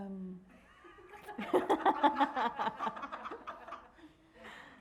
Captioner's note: everyone laughing